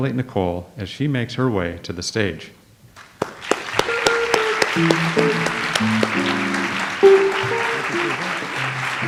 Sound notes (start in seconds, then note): 3.0 audience applauds; 3.7 light jazz music